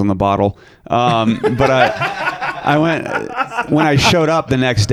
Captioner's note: laughing